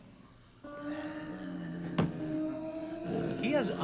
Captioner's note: snarls